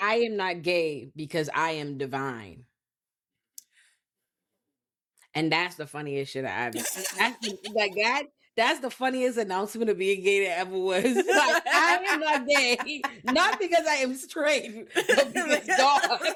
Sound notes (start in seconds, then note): 11.0 laughing